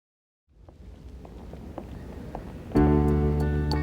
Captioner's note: footsteps echo